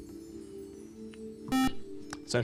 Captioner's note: buzzer